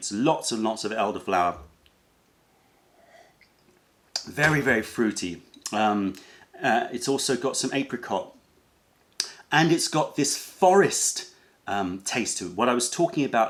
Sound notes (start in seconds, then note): 3.2 sips tea